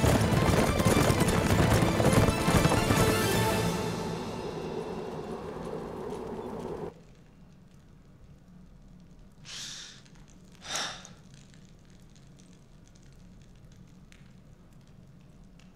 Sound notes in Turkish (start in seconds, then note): 10.6 Dragos iç çekiyor; 12.5 Sessizlik